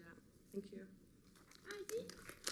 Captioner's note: applause